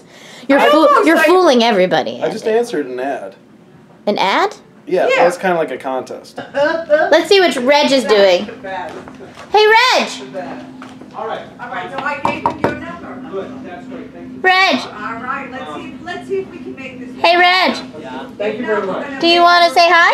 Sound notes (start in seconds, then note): 12.0 knocks